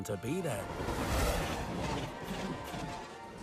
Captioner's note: chug-Chug-Chug